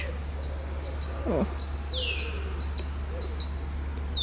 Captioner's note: intense Titmouse Screaming